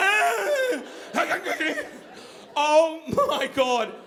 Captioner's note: loudly exhaling; screaming